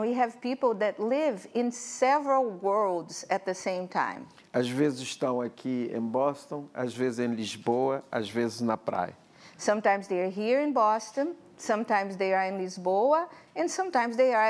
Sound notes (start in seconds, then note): 5.4 speaking portuguese